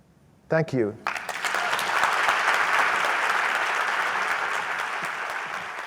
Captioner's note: audience applauds